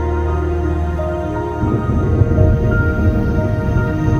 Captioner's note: thunder rumbling